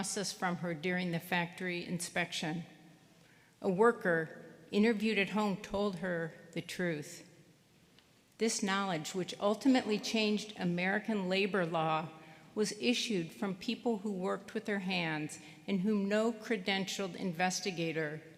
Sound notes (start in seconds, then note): none